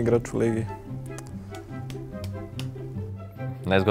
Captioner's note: thinking taps